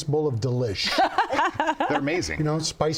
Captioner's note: laughs